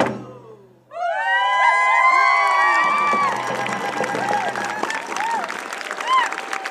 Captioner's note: cheering and applause